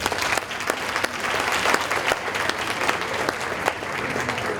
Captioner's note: audience applauding